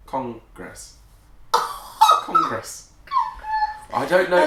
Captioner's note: laughing